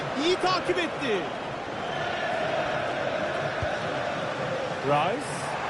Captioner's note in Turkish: coşkulu tezahürat